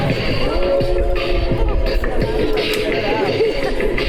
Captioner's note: wolf howls